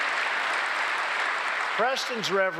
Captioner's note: applause